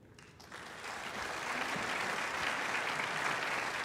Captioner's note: audience applauding